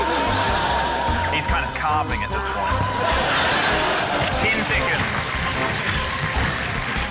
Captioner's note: applause